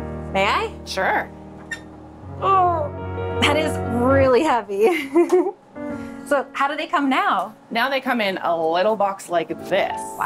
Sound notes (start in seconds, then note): 0.0 light music continues; 4.9 laughing